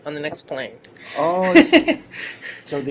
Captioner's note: laughter